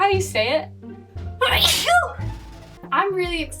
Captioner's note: sneezes